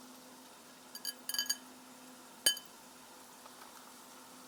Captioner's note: bowl clinks